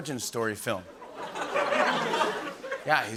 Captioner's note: laughter